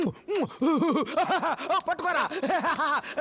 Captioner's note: Laughs